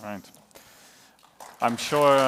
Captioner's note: applause